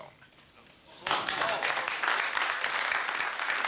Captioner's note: applause